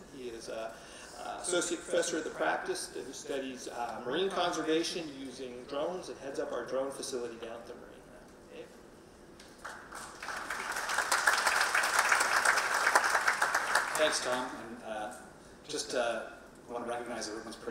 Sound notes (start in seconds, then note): 9.5 audience clapping